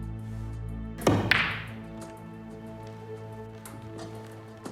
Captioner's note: balls cracking